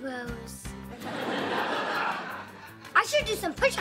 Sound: laughing

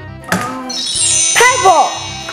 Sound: chimes

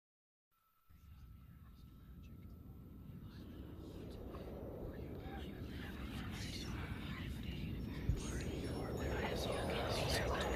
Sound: voices whispering positive affirmations within a gentle wind

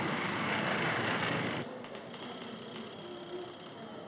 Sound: phone Ringing

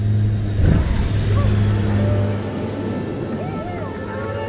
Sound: aircraft thudding; men cheering

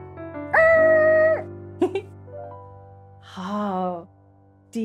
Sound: giggles

